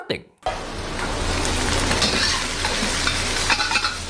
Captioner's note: rice sizzling